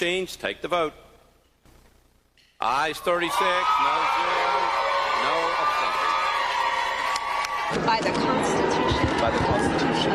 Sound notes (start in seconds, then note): 4.9 cheering